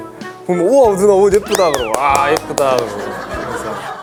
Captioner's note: auto clap